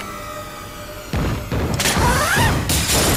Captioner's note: explosions blasting; glass shatters